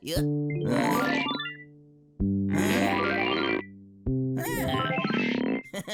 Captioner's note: rubber creaking; laughs; whimsical music